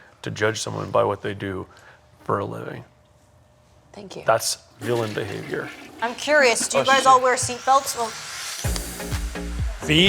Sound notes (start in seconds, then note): 4.8 toilet flushing; 8.6 upbeat rhythmic music